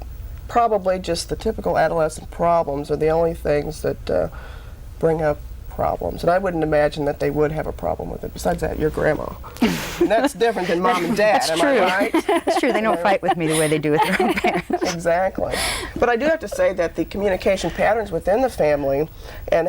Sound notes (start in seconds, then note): 12.5 laughs; 15.0 laughs